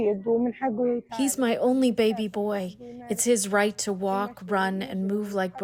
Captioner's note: through translator